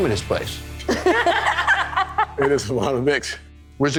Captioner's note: all laughing